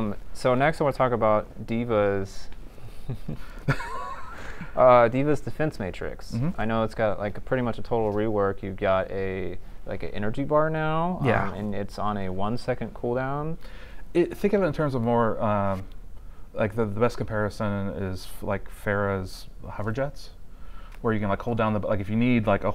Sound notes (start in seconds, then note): 3.0 laughter